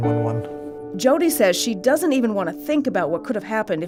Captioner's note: voiceover